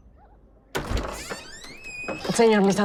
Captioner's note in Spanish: Ruido al abrir la puerta